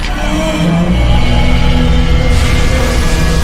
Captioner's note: pissed roar